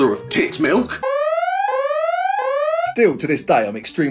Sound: alarm blares

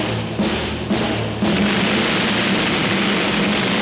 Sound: explosion

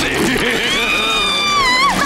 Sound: screaming; laughing

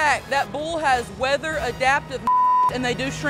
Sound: beep

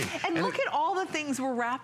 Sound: laughter

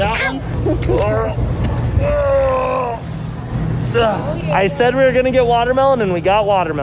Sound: groans

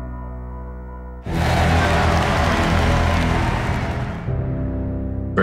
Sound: crowd cheering

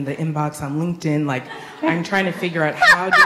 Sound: laughs

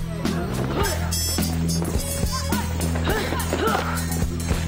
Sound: students shouting

